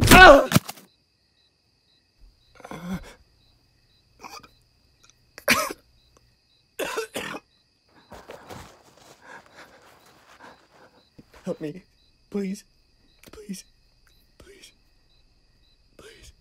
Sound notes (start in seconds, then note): 0.0 Chad groaning; 2.4 crickets chirping; 5.4 Chad groaning and coughing